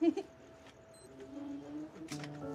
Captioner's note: giggles; lock bleeps; door opens